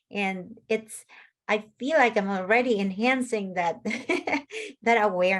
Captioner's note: laughs